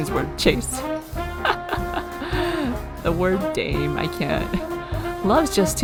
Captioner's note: laughs